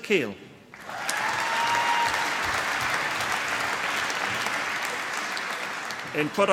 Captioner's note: applause